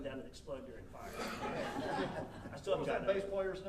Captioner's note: audience laughing